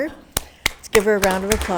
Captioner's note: attendees applauding